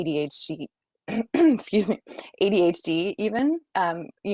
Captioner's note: coughing